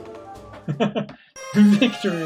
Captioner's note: laughs; friendship fanfare